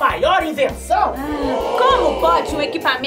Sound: sighs

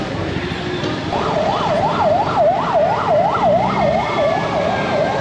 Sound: police siren

